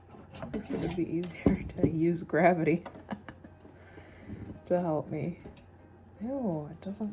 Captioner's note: laughter